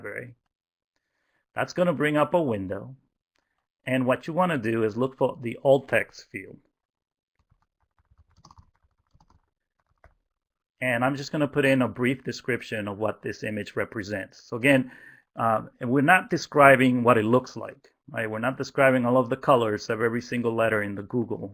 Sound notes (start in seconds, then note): 7.4 typing